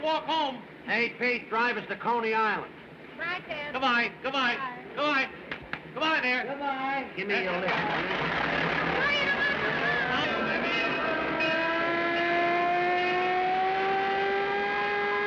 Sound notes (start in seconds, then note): 9.0 siren, Bell Clanging